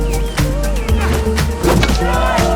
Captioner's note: grunts; bat clanks ball